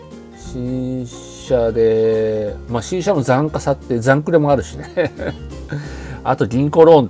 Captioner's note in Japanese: 笑い